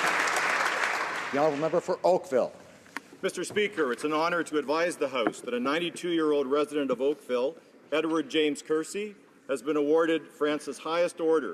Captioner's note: some Applause